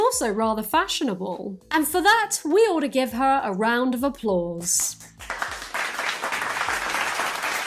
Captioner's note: applause